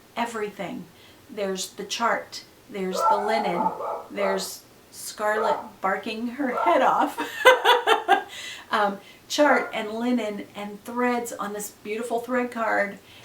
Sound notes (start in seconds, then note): 5.2 dog barking loudly; 6.4 laughs